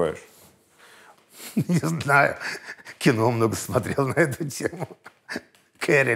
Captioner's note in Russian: посмеиваясь